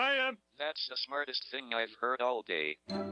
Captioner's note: electronic Voice